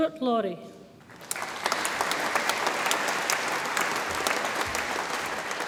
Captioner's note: audience applauds